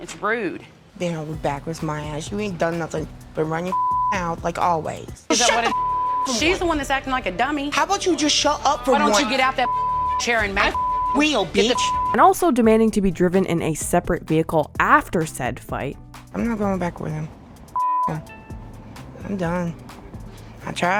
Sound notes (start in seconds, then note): 5.4 beep; 9.6 beep; 17.7 beep